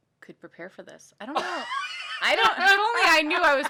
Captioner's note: laughing